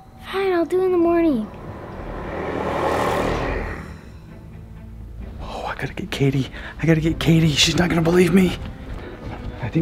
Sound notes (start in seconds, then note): 2.5 deep growling